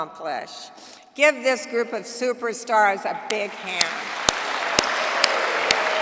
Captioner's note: applause